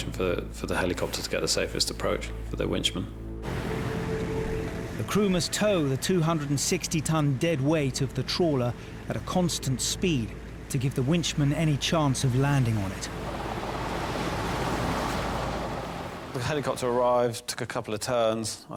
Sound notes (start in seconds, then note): 13.8 helicopter blades whirl